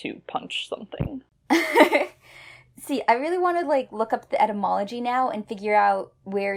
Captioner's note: laughs